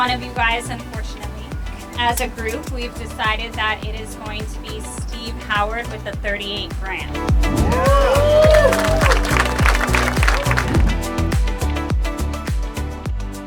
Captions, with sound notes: of you guys, unfortunately. As a group, we've decided that it is going to be Steve Howard with the '38 Graham. (applause) (upbeat music)